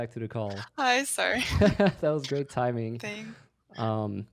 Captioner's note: chuckles